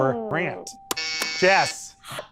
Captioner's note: presses buzzer